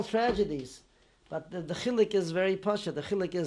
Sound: non-english

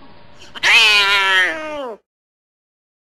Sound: Exotic Shorthair Yowling

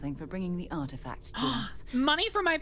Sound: gasp

